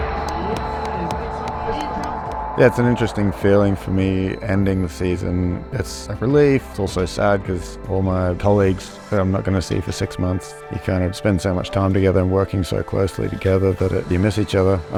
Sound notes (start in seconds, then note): 0.0 hands clapping